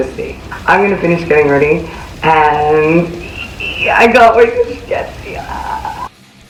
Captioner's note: squeals